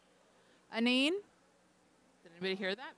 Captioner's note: speaking Anishinaabe